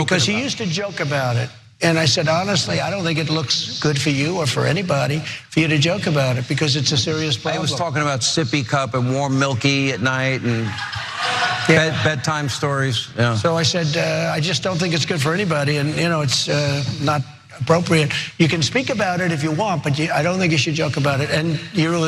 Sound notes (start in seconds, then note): 9.8 laugh